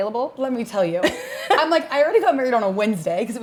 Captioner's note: Brandi chuckles